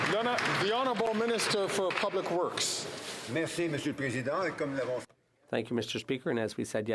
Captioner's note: some Applause